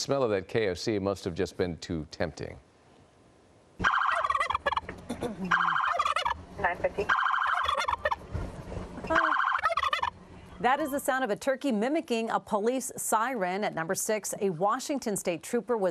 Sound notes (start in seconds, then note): 6.3 sirens; 7.0 turkey gobbling